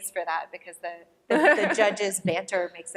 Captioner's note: laughter